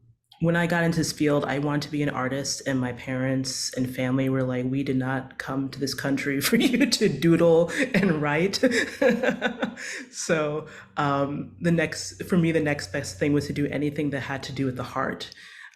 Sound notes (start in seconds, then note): 8.6 chortles